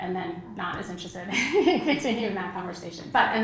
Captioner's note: laugh; laugh